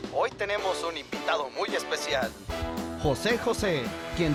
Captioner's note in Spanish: Voz en la TV